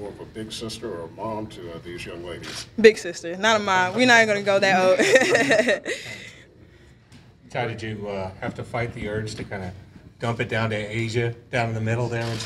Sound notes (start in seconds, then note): 4.9 laughter